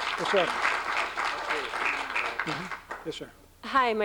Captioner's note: applause